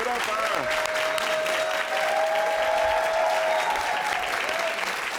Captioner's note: audience applaud